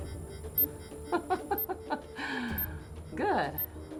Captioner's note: chuckles